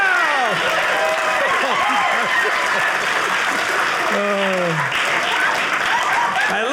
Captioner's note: audience applauding